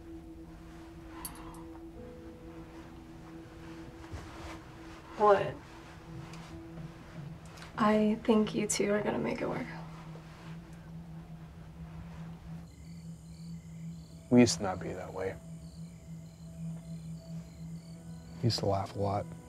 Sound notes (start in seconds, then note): 0.1 gentle music; 10.1 gentle music; 12.7 crickets chirping; 15.6 crickets chirping